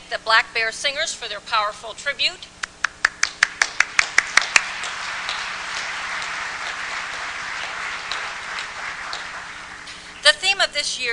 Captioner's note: applause